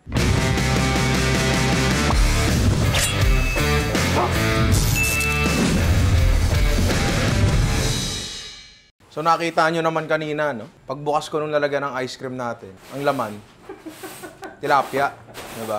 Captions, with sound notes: [intro music] -You just saw that when I opened the ice cream container, -[laughs] Tilapia is what's inside.